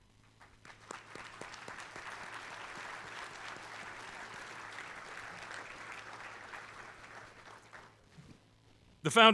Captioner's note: applause